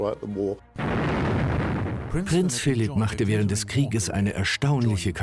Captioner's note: voiceover